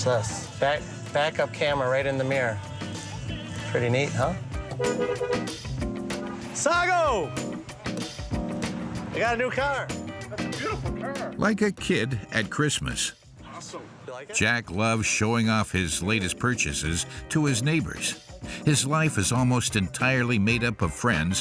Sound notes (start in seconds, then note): 4.9 horn blows